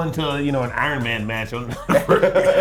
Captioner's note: laugh